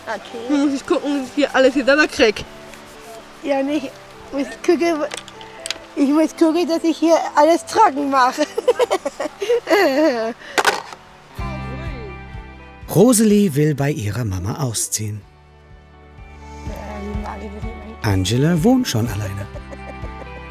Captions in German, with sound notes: Nun muss ich gucken, wie ich alles hier sauber krieg. Und ich muss gucken, dass ich alles trocken mache. (Lachen) Rosalie will bei ihrer Mama ausziehen. (Lockere Musik) Angela wohnt schon alleine.